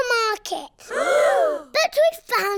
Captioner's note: all gasp